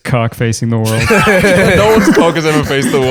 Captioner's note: laughter